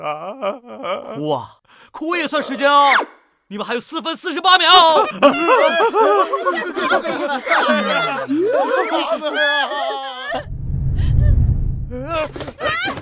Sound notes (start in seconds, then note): 5.0 crying